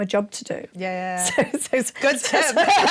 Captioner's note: laughing